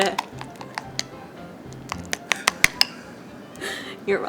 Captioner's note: spoon clinks